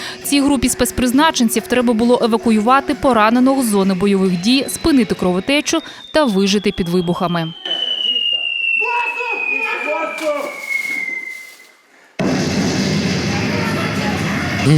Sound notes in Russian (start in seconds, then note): 7.7 звук обстрела; 12.2 звук взрыва